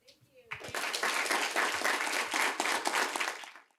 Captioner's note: applause